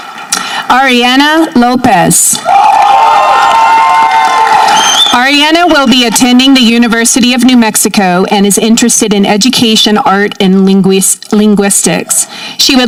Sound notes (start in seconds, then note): 2.4 audience cheering